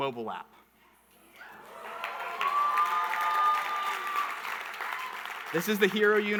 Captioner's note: audience cheering and clapping